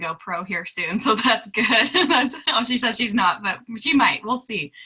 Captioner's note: laughing